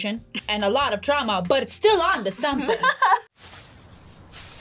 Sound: laughs

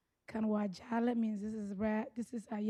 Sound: speaking Somali

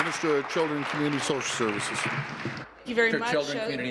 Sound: applause

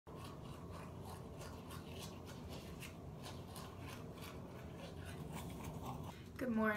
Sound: brushing

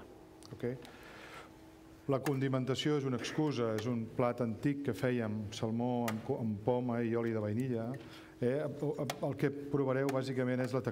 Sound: speaking catalan

